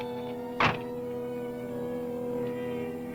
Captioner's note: door thuds